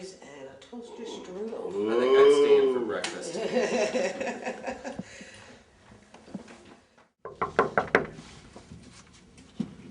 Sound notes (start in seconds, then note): 3.7 laughing; 7.2 door knocking